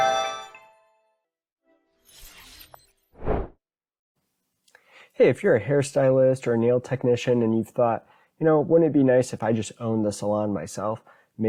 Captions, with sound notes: (word whooshing) - Hey, if you're a hair stylist or a nail technician, and you've thought, wouldn't it be nice if I just own the salon myself